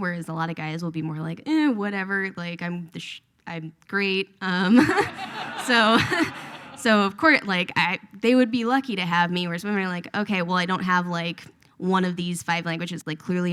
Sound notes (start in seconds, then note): 4.8 laughs; 4.8 audience laughs